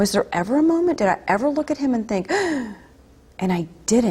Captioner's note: gasp